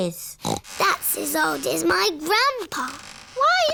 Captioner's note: snorts